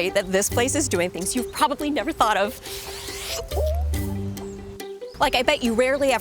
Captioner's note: squealing